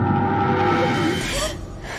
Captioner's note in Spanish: Grito